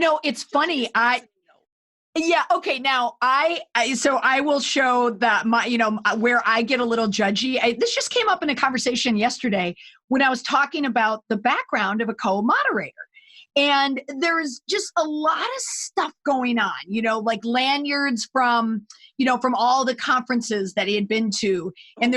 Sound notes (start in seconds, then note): 5.0 stammering